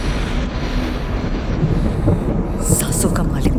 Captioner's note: thunder Rumbling